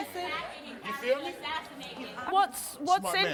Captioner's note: angry chatter